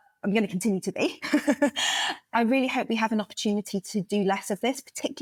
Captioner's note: laugh